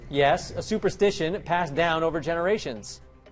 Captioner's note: none